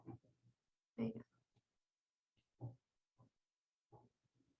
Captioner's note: speaking faintly